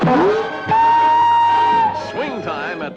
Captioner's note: whoosh